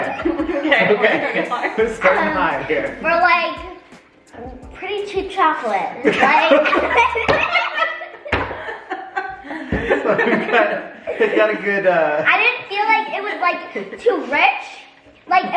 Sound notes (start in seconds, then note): 0.0 family giggles; 6.0 family laughs